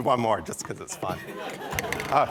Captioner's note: laughter